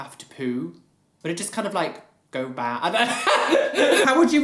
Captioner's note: laugh